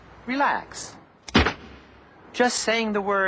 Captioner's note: gunshot